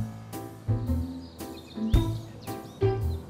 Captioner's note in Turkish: Kuş sesleri